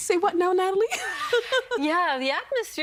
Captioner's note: laughing